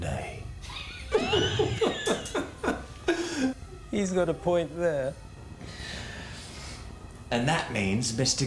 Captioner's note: laughs